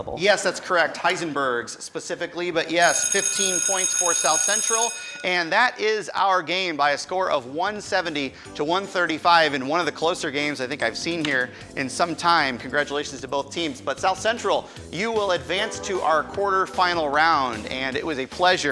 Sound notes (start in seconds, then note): 4.4 school bell rings